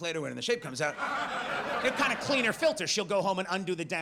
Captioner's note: audience laughs